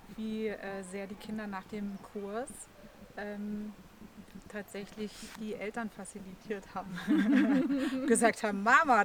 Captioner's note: laughs